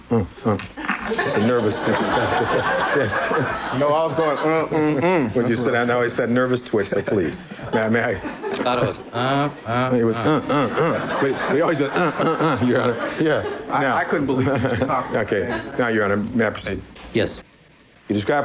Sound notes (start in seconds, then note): 15.2 galley laughter